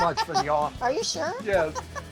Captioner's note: laughs